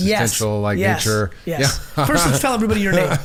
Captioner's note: Mark laughing